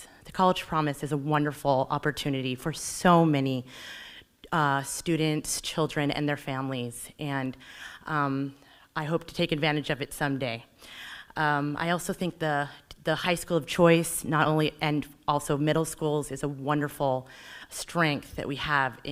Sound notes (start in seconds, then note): none